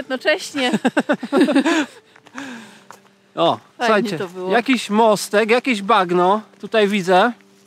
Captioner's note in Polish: śmiech